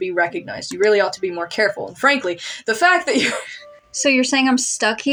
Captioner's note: laugh